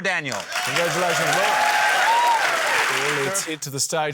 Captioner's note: cheering, applause